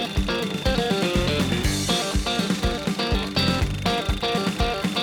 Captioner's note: drilling sounds